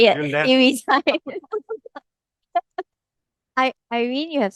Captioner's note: laughters